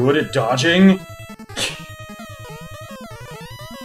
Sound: scoffs

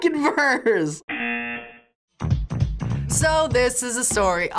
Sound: buzzer rings

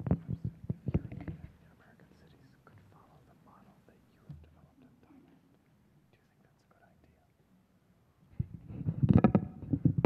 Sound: whispering

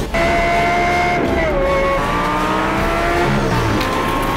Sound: engines revving

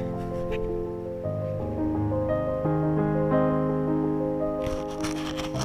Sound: piano music; scrubbing

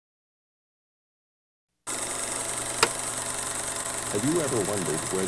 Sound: projector clicking

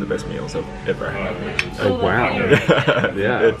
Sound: laughs

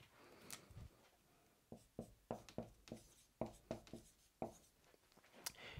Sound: marker tapping board

